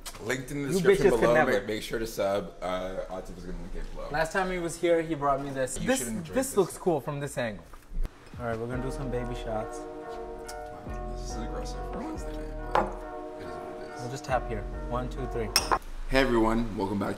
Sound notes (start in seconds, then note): 12.7 cup clanks